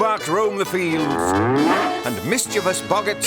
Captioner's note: moo-woof!